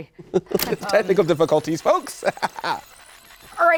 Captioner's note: laughter